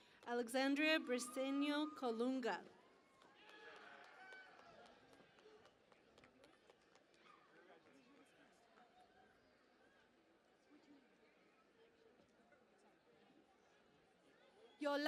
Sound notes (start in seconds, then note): 0.0 cheering and Applause; 3.4 cheering and Applause